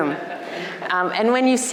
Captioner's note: crowd laughing